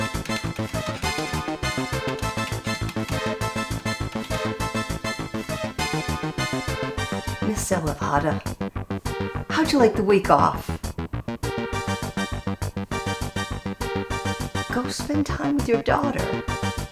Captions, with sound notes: (keyboard clacking) - Ms. Elevada, how'd you like the week off? Go spend time with your daughter.